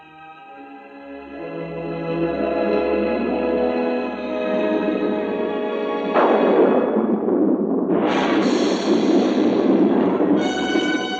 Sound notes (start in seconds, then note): 1.1 anguished music; 6.0 thunder crashing; 6.1 tense music